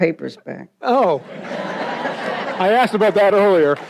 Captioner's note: audience laughs